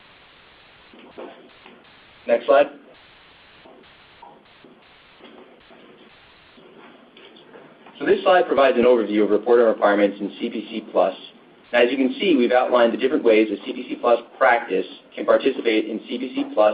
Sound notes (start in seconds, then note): 2.9 silence